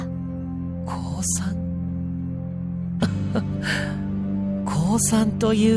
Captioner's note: chuckle